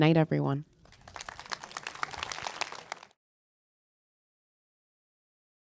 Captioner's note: audience applauding